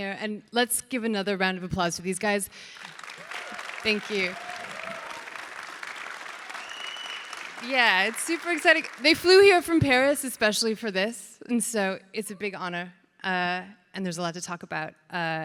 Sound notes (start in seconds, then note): 4.7 audience cheers